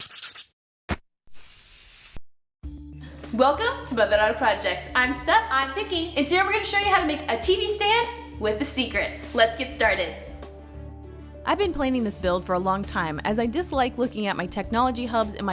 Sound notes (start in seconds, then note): 0.0 sandpaper gritting; 1.4 spray can hissing